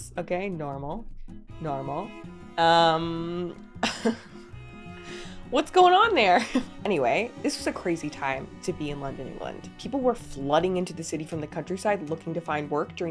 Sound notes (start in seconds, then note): 3.8 chuckles